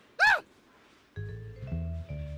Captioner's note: gasps